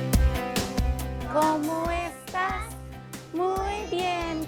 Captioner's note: speaking in foreign language